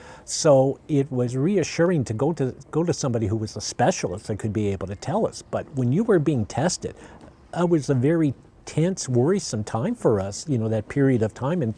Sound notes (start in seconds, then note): none